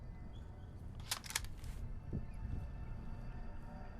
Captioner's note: gun clicks